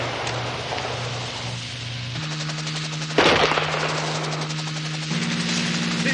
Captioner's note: gun shot